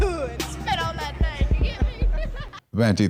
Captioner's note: laughs